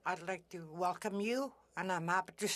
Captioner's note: speaking French